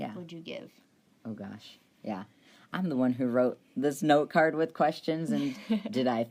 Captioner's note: laughs